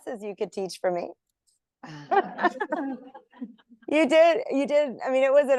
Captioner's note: laughter